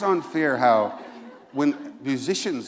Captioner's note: laughter